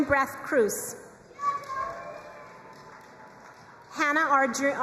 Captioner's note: crowd cheering and applauding